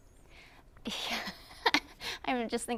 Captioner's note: laughs